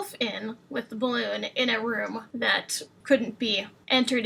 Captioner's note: none